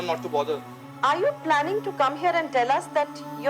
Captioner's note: on phone